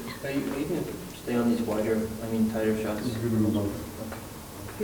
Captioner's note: man speaks off mic